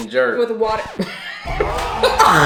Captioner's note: record scratches; both laughing; crowd groaning